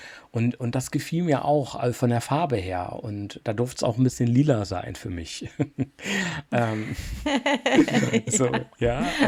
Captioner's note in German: gelächter